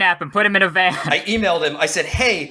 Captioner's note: laughs